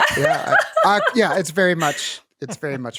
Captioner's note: laughs